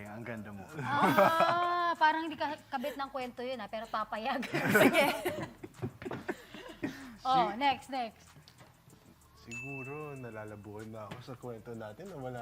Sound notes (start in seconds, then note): 3.7 laughs